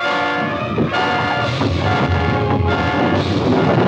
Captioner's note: banging on door